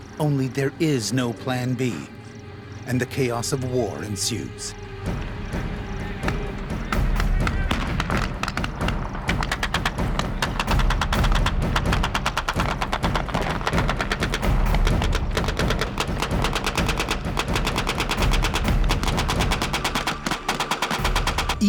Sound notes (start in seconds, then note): 7.7 explosion; 8.5 gunfire